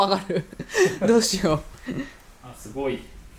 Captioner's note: laughs